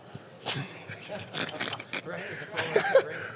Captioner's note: laughing